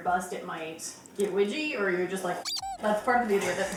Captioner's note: squeak toy sound